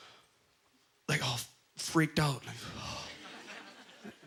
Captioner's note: audience laughter